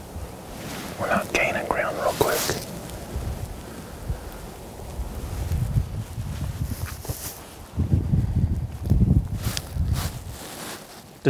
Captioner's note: whispering